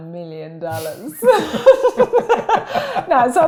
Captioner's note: laugh